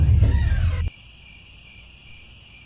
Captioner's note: crickets